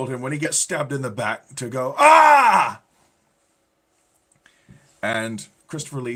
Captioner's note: screaming